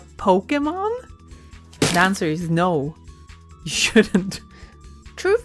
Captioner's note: laughs